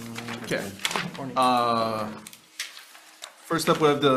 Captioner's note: pages rustle